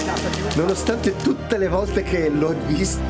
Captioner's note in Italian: Applauso